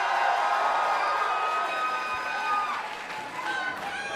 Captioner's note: crowd cheering; crowd chatter